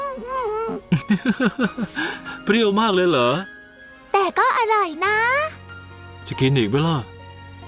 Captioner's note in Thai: เสียงหัวเราะ